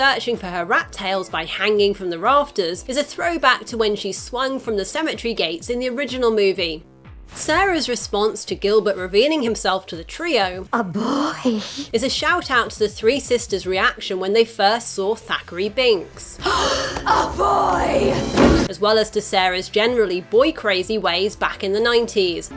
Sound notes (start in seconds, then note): 16.4 gasping